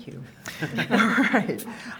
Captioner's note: all laughing